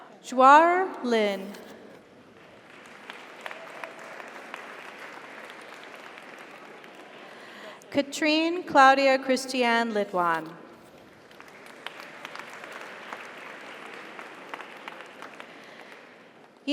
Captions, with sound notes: Zhouer Lin. (audience applauds) (audience cheers) Kathrin Claudia Christiane Litwan. (audience applauds) (audience cheers)